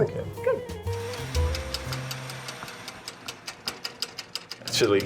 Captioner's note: cooking Timer Ticking